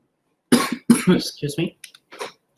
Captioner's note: coughs